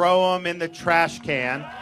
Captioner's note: cheering and applause